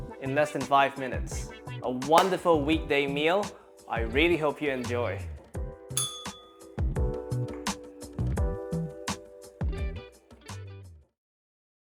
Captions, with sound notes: in less than five minutes. A wonderful weekday meal. I really hope you enjoy. [bell rings] [upbeat music]